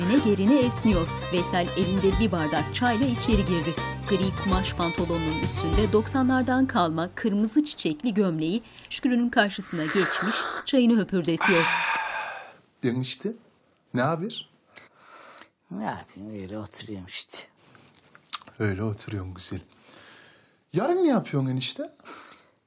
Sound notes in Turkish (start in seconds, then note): 9.7 Höpürdetme sesi